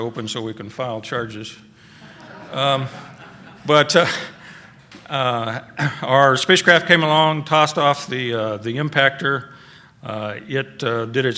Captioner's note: laughter